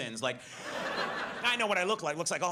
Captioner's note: audience laughs